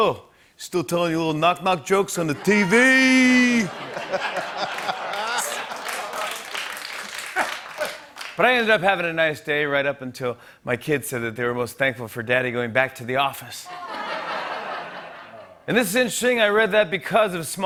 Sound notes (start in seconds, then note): 2.2 laughter and applause; 13.6 laughter